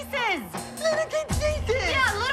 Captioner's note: mockingly